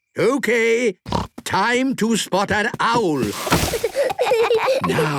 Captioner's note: snorting; kids giggling